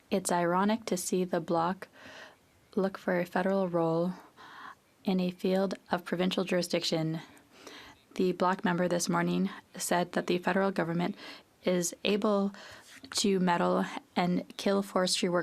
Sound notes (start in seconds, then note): 3.5 speaking French